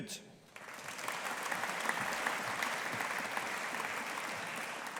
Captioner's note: audience applauding